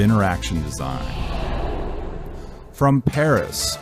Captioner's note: air swooshing